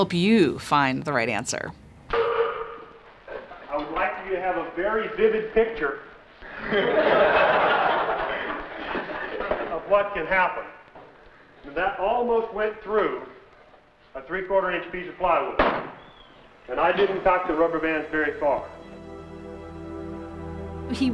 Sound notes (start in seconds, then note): 6.4 laughter